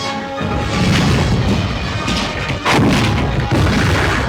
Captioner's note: bombs exploding